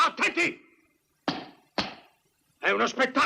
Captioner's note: stamps floor